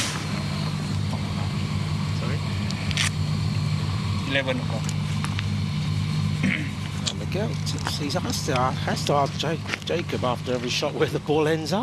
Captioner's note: chatter